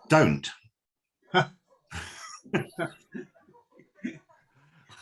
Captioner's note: laughing